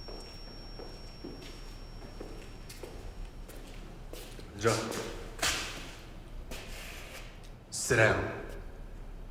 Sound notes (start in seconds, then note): 4.8 speaking Korean; 4.8 voiceover